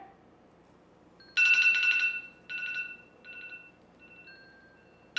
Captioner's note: phone rings